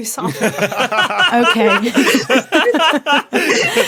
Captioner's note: group laughing